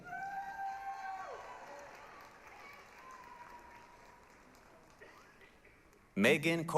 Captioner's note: applause, cheering